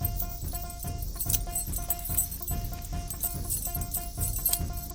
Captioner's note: chains rattling